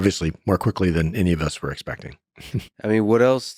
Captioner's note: laughs